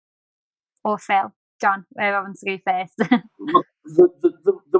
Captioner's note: laughs